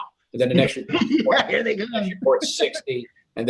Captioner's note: laughs